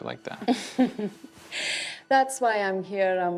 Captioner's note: laughing